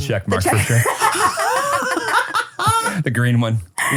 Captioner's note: everybody laughs